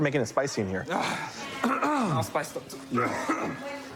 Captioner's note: coughs; clears throat